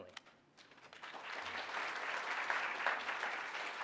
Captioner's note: applause